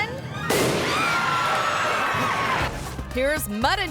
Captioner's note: audience screaming; explosion booms